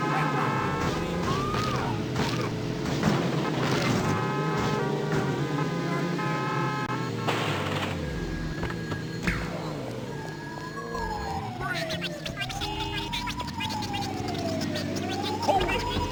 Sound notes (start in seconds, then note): 0.0 car horns blaring; 1.7 people yelling; 11.3 police sirens blaring